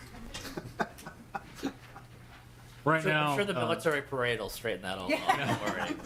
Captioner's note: laughter